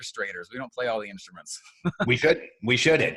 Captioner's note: laughs